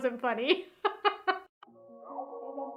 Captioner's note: laughs; upbeat music